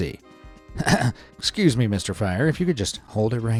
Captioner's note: clears throat